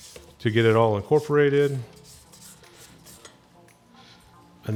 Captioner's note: scraping